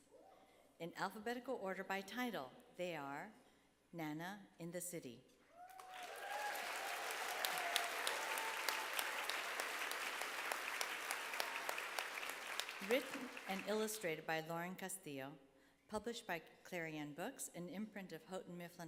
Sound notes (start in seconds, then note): 5.6 applause